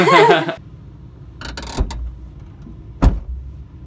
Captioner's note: both laugh; trunk creaks; thump